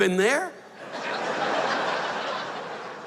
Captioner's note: laughter